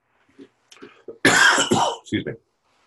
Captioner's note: coughs